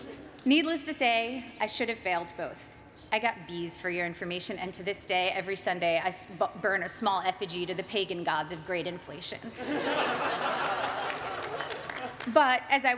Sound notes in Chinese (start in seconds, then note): 9.5 眾人大笑